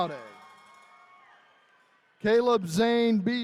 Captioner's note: attendees cheering